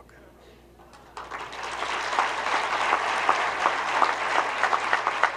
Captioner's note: group clapping